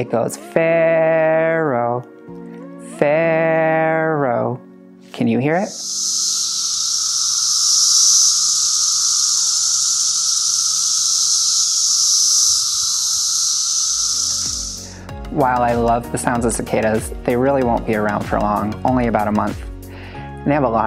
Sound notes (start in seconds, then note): 5.6 cicadas calling